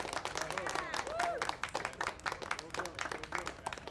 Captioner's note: cheers